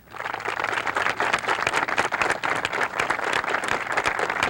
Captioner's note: audience applauds